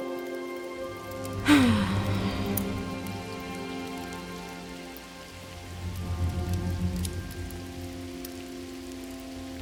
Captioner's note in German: Sie seufzen schwer